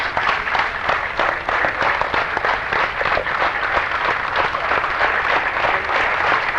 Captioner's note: applause